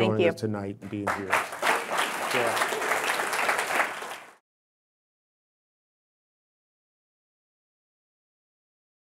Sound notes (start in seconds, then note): 2.8 audience applauding